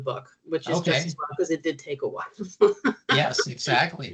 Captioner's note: chuckling